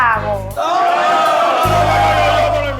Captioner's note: everyone screams